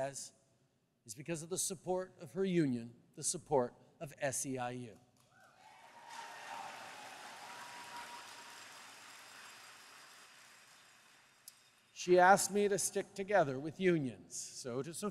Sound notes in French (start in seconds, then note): 5.4 Applaudissements